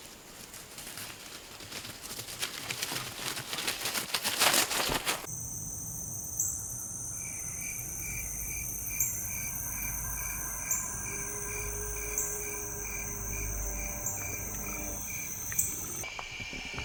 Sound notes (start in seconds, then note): 5.4 crickets chirping; 9.4 ominous music